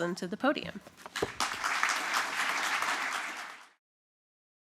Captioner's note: applause